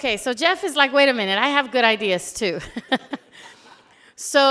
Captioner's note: laughs